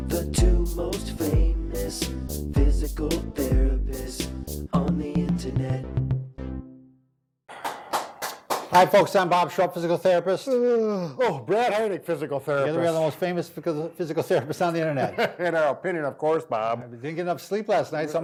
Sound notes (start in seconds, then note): 7.5 clapping; 10.8 yawning; 14.9 laughing